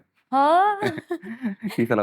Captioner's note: exclaims